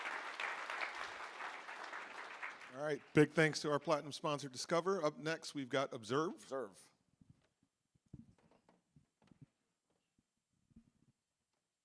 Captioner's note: applause